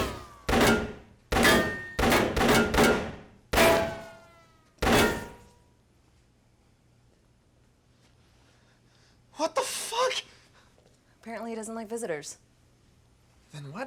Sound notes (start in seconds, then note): 0.0 gunfire; 6.1 gunfire stops